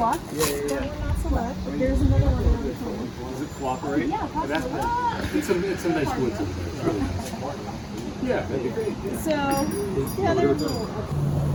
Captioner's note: overlapping chit chat